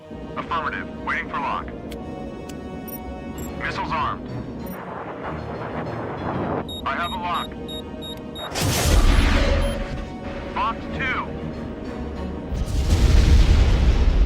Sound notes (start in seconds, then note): 12.5 explosion